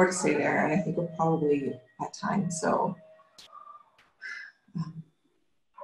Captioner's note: sighs